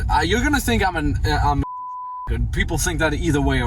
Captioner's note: beep